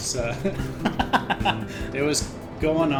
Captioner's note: laughs